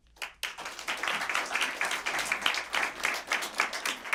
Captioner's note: applause